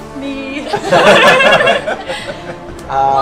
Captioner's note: laughter